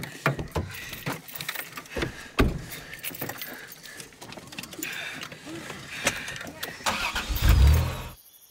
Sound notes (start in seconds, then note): 6.6 engine starts